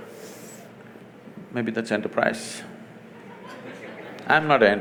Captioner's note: laughter